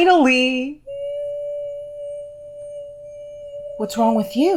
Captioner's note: high pitched whimper